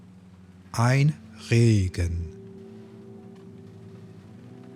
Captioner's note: german